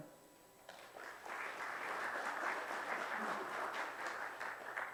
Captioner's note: audience applause